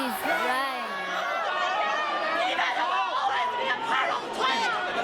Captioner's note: shouting